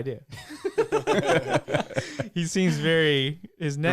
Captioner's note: laughing